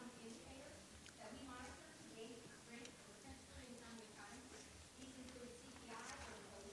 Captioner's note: speaking faintly